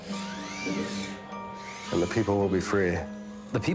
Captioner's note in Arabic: روبوت الذراع الطنين